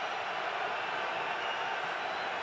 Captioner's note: crowd cheering